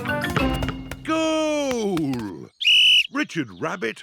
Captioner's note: blows whistle